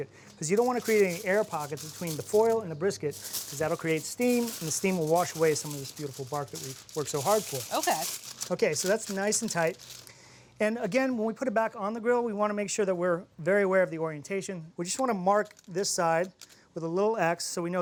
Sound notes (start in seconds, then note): none